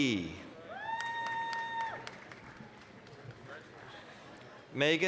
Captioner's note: applause, cheering